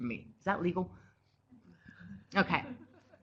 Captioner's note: laughter from the live audience